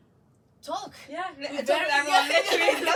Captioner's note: both laugh